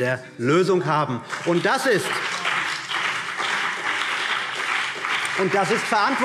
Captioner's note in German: Beifall BÜNDNIS 90/DIE GRÜNEN